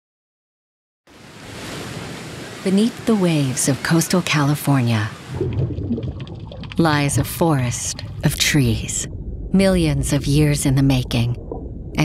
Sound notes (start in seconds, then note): 1.1 waves crashing